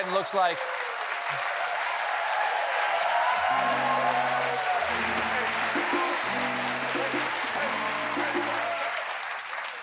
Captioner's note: cheers and applause